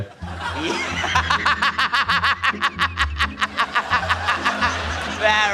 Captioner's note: laughs uncontrollably